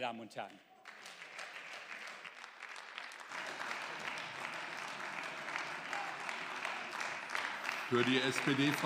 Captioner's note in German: Beifall